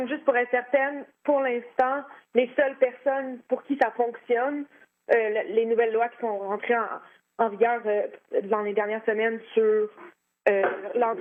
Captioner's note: speaking French